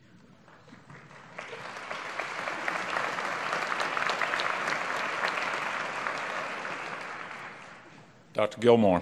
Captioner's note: applause